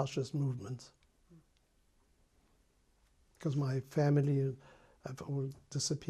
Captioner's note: pauses for 3 seconds